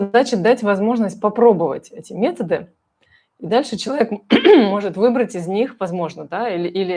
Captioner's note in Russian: откашливается